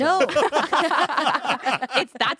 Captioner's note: everyone laughs